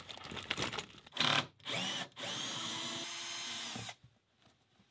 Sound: drilling

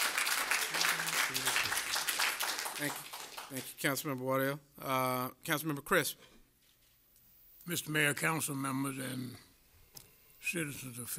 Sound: applause

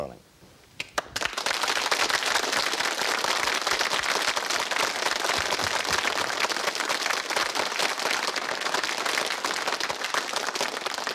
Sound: applause

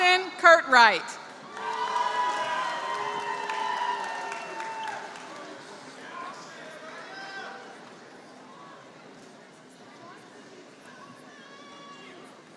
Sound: applause

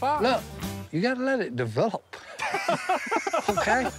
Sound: laughing

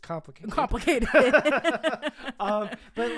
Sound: both laughing

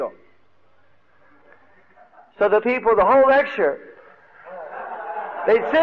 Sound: devotees laughing; laughing

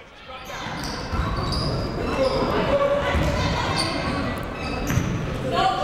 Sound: people shouting in the crowd

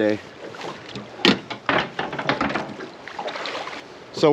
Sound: clattering

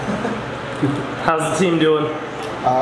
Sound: laughing

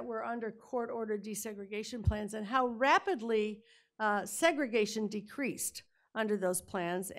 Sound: none

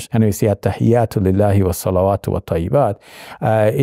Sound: Shabir speaking Arabic

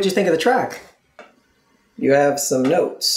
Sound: awkward silence

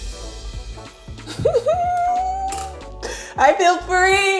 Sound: light music; laughs

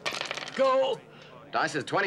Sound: dice rattling

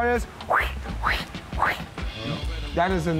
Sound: casting sound

